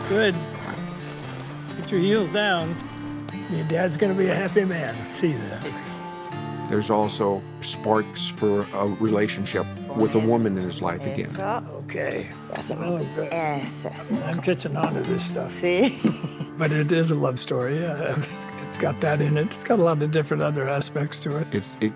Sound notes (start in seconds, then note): 13.6 speaking Spanish; 15.7 laughing